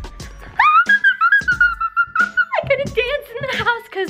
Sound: screams

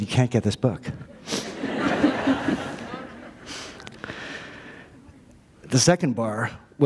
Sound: laughter

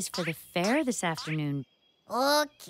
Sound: chuckles

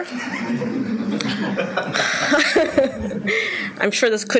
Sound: laughing

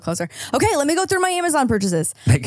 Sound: laughs

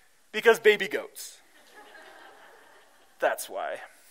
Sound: laughter

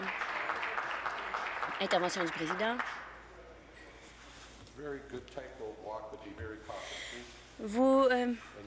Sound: applause

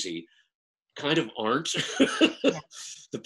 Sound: laughs

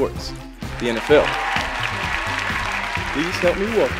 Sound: cheers and applause

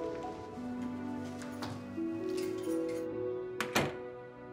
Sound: door shuts

